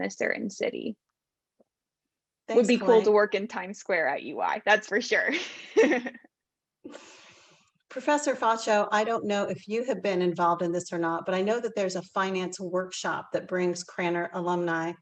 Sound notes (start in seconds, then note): 5.7 laugh